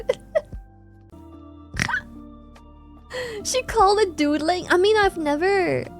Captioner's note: laughs